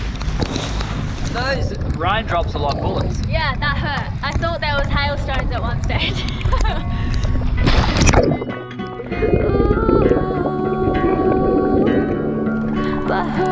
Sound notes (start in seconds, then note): 5.9 laughs; 7.5 splashing